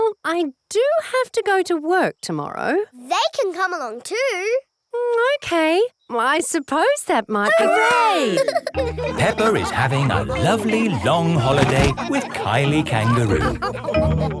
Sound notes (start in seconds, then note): 9.0 all laughing